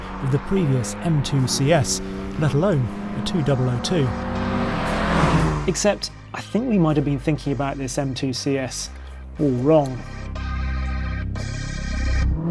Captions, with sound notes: of the previous M2 CS, let alone the 2002. (vehicle revs) Except I think we might've been thinking about this M2 CS wrong. (upbeat music continues)